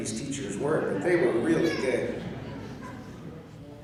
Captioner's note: chuckling